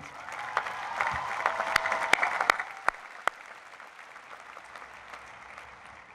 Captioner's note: applause